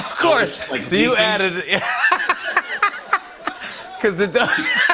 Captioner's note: laughter